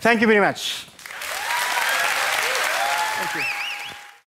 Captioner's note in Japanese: 拍手